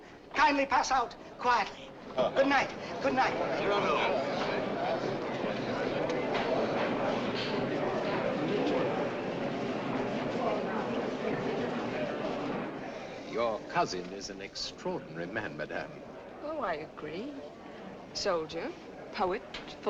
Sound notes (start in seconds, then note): 3.6 murmurs in the audience